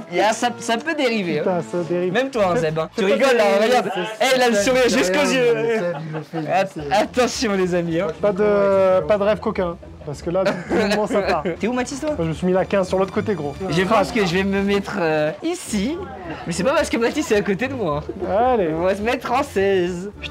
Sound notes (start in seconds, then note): 7.7 laughs